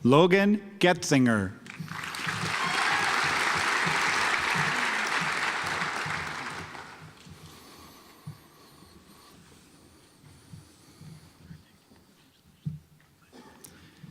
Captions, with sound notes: Logan Goetzinger (audience applauds)